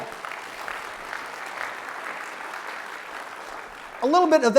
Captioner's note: clapping